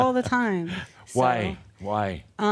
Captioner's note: chuckles